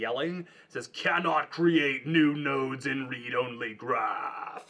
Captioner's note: in a stern voice